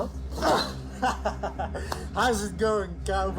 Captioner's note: laughs